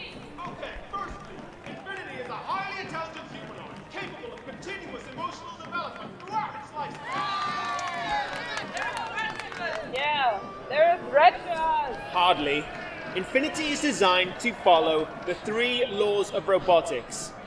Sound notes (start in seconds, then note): 7.8 crowd cheers